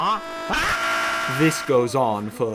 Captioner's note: scream